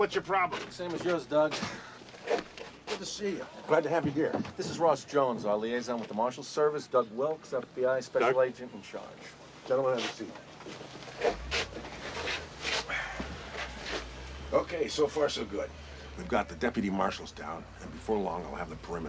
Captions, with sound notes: SAME AS YOURS, DOUG. GOOD TO SEE YOU. I'M GLAD TO HAVE YOU HERE. THIS IS ROSS JONES, OUR LIAISON WITH THE MARSHAL SERVICE. DOUG WILKS, F.B.I. SPECIAL AGENT IN CHARGE. GENTLEMEN, HAVE A SEAT. [sighing] OK, SO FAR SO GOOD. WE'VE GOT THE DEPUTY MARSHALS DOWN AND BEFORE LONG, I'LL HAVE THE PERIMETER SECURED.